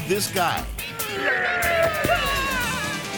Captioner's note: passerby whimpering; prankster growling